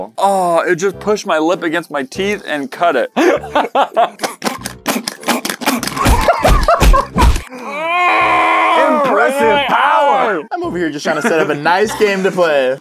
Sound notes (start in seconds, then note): 7.6 agony sounds again